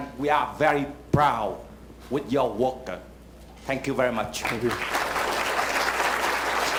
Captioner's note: applause